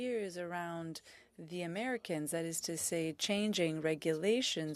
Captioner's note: speaking French